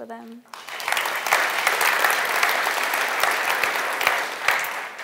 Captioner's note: audience applauding